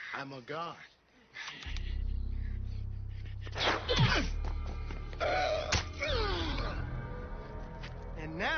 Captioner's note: fighting noises